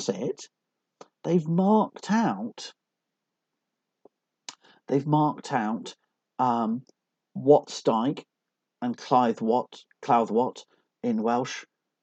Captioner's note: in Welsh